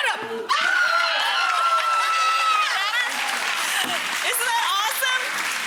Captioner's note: audience cheering